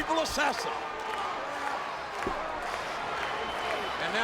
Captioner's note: audience chanting and clapping